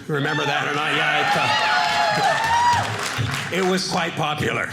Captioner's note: audience cheering